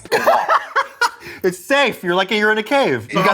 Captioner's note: laughs